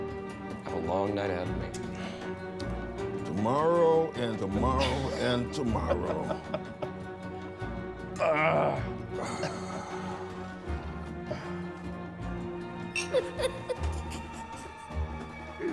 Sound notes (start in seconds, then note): 4.6 laughs; 8.2 grunts; 13.0 chuckling